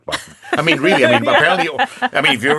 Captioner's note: laughing